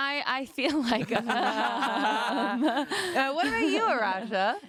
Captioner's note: laughing